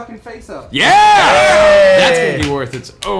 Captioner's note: cheering